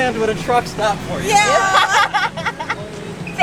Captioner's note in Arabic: ضحك